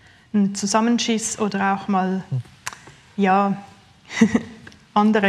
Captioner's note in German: Lachen